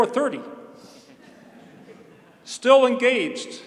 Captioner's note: laughter